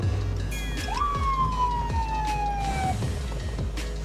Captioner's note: sirens blaring